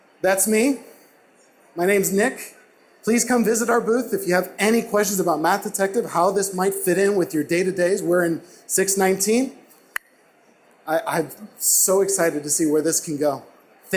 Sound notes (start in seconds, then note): 10.1 clap